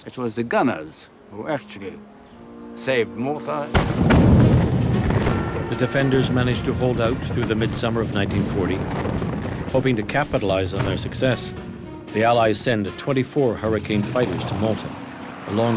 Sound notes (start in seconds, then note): 3.7 gunshot fire